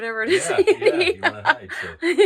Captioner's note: laughing